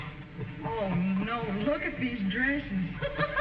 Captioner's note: chuckles